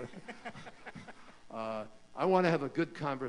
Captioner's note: laughter